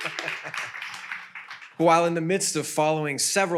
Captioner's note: chuckles; audience applauds